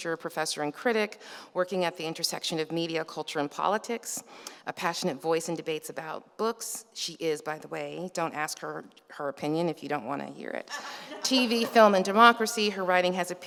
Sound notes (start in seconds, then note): 10.7 laughs